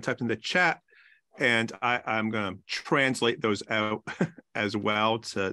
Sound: chuckles

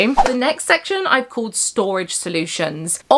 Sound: screen whooshing

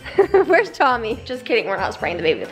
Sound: laughs

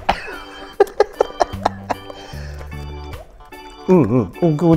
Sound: laughs

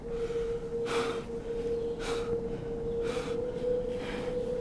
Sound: Jaymee panting

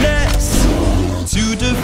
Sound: roar

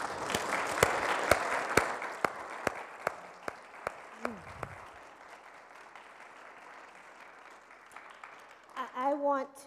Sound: applause

